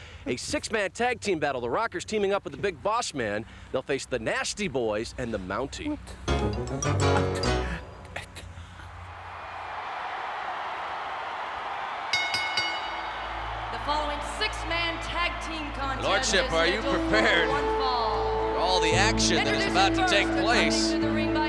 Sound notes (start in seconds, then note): 9.2 applause